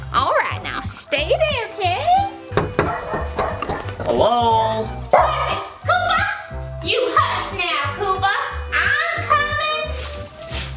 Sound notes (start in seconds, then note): 2.5 knocks; 5.1 dog barks